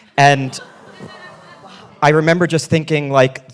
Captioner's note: audience laughing